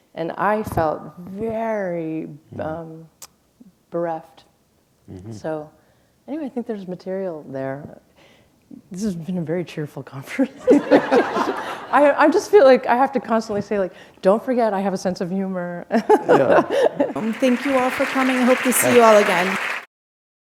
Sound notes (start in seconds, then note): 10.5 laughter; 19.5 applause